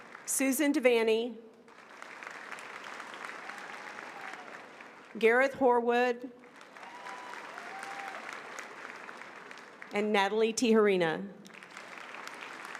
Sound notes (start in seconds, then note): 6.5 applause